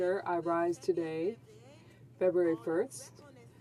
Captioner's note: speaking French